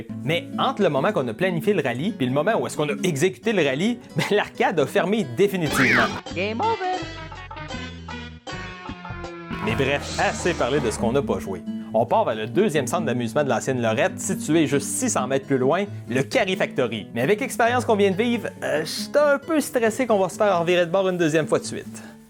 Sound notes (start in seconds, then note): 5.7 Mario 64 Game Over Sound Effect